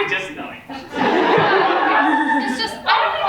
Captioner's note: audience laughs